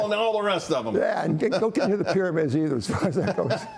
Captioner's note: laughter